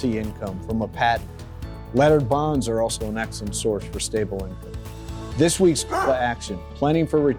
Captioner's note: bark